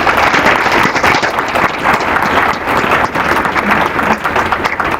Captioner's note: applause